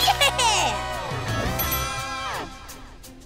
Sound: bell dings

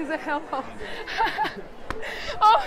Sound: laughs

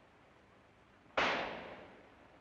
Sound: gunshot

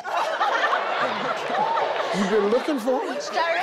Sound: everyone laughs

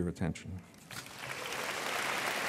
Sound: applause

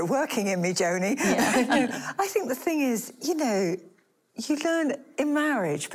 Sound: laughing

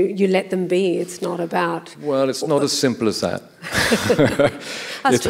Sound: laughs

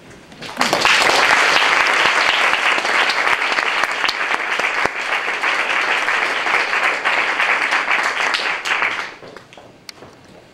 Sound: applause

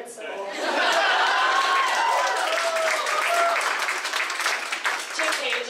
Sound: laughing; applause

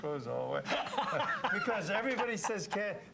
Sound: laughing

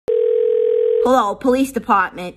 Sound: phone rings

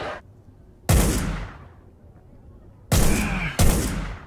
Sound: gun shot; repeated gun shots

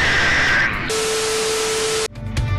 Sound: heavily distorted; static

